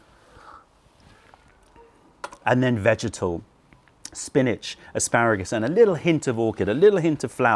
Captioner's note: sips tea